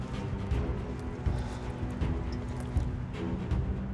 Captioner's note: sighs